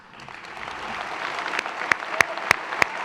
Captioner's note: applause